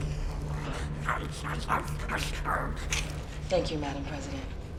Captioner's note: zombie growling